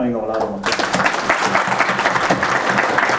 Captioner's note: applause